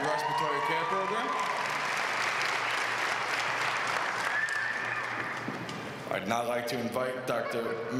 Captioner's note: applause